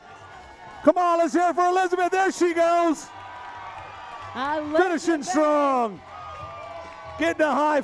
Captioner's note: cheering